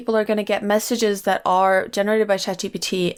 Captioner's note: none